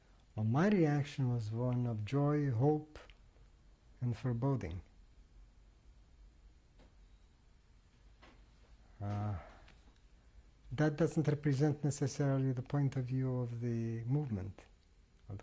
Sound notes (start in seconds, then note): 4.8 pauses for 6 seconds